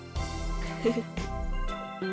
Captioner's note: chuckle